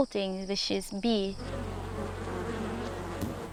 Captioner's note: buzzing